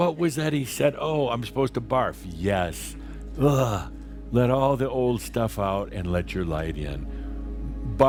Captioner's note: makes gagging sound